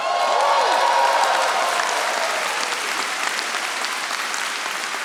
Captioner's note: audience applauding